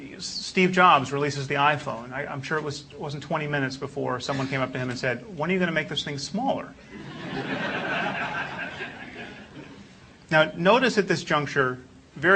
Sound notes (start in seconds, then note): 6.9 laugh